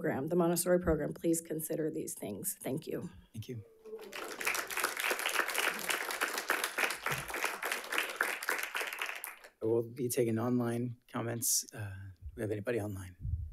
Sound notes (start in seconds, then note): 3.9 audience applauding